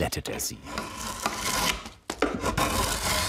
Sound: wooden scraping

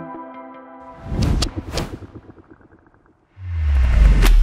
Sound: screen whooshing; upbeat music; graphics whooshing; logo whooshing; dramatic music

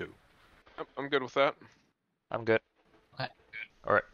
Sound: on the radio

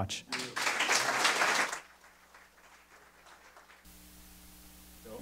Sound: audience applause

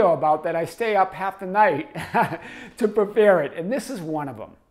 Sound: laughs

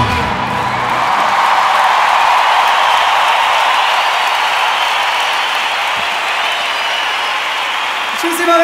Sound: applause

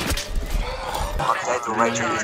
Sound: sighs angrily

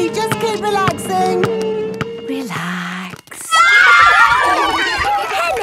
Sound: kids screaming; laughter

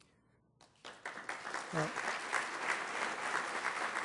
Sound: applause

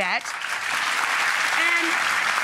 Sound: applause

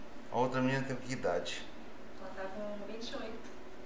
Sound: none

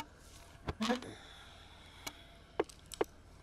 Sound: sighs

